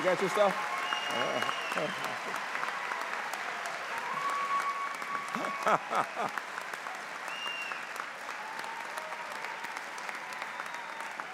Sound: applause; laughter

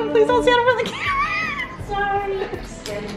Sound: laughs

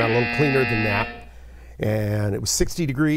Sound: buzzer

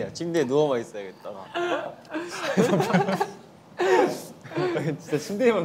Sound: haha

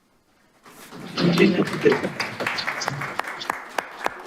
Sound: applause

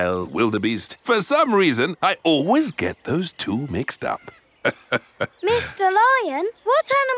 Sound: laughs

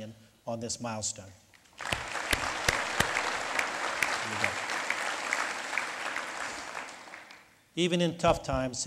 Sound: lead Applause

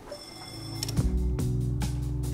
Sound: bell ringing

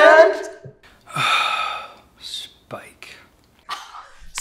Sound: sigh

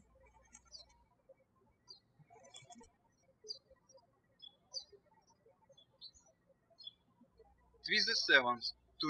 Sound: birds chirping

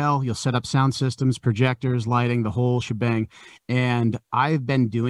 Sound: none

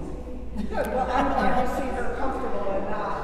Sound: laughing

